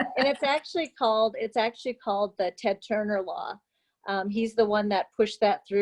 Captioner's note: laughter